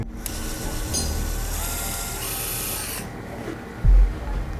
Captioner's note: drill whirring